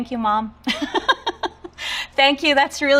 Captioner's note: giggling